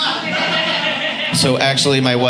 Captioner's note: audience laughing